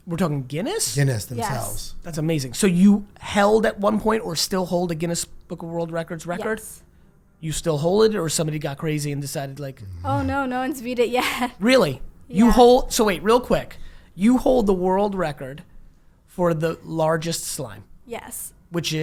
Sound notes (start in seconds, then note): 9.8 laughs